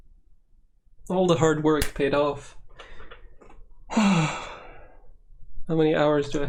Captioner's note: exhale